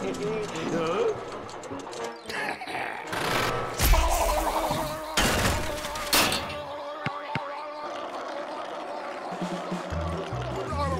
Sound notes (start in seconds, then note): 2.3 growling; 4.0 blubbing